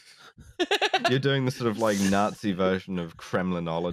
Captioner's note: laughs